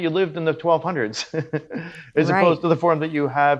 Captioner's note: laughs